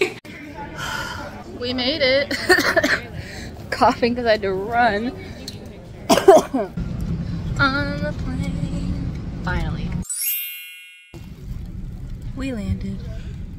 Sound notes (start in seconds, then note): 2.3 coughs